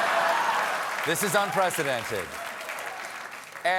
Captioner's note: cheers and applause